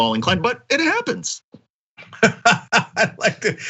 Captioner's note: laugh